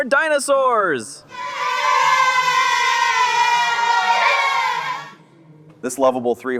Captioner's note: children cheer